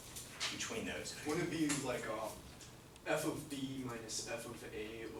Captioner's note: voiceover